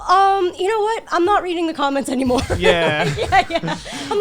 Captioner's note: laughs